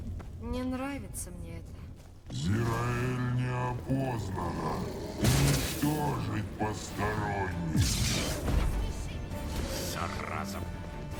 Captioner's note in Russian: стон